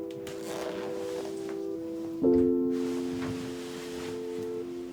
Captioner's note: pensive piano music; zipper unzipping